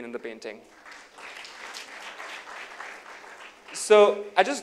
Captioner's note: applause